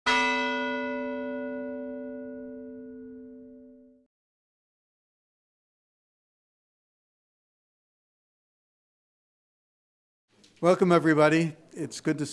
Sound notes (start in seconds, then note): 0.0 bell chimes